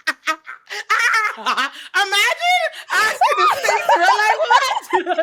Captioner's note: laughs